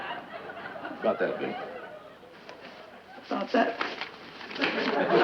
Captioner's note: laughter from audience